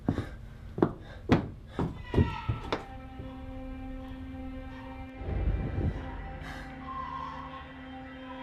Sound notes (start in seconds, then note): 2.0 baby crying